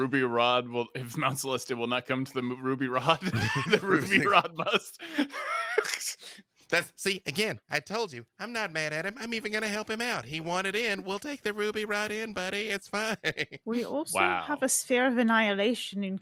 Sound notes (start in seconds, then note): 6.1 laughs